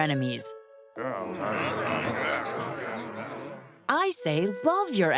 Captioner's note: grumbling